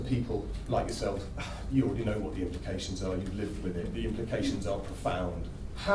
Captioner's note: sigh